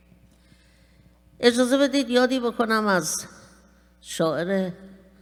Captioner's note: speaking persian